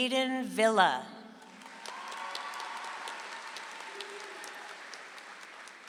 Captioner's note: audience applauds